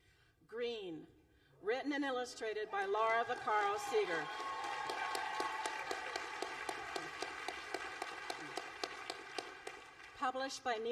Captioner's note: applause